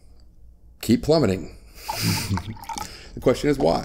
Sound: laughs

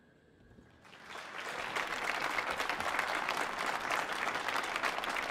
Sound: audience applauding

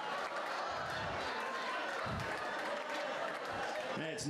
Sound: laughter

